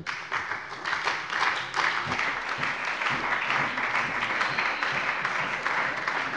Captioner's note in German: Allgemeiner Beifall